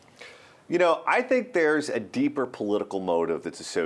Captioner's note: voiceover